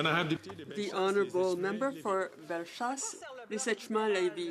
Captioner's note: some Applause; speaking French